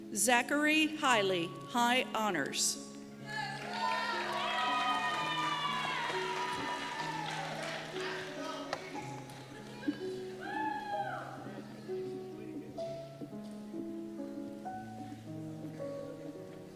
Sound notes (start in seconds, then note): 3.3 cheers and Applause; 8.8 soft piano music